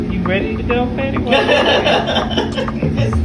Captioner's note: laughing